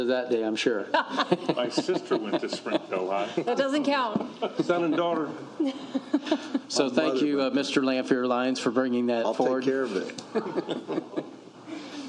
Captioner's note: laughter